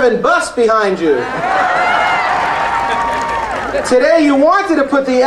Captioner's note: audience cheering and applauding